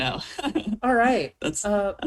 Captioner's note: laughs